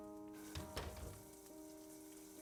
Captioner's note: la puerta se cierra